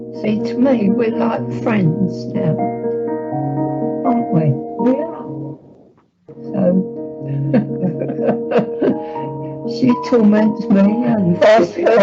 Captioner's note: laughs